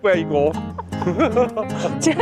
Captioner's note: laughter